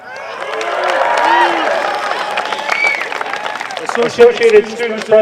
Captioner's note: applause